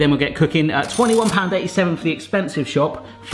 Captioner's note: till ringing